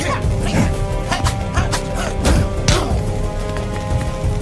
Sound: men groaning

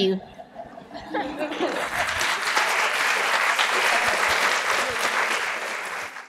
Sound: applause

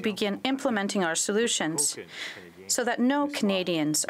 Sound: speaking french

